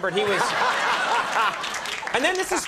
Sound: audience laughs; laughing

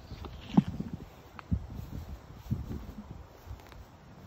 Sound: wind rustling crest

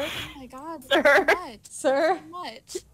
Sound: laughing

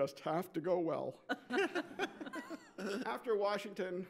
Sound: laughs

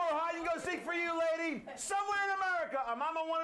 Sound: audience cheers

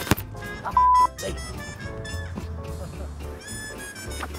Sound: beep; peppy music

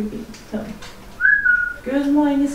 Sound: whistles

